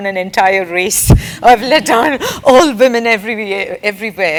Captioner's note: laugh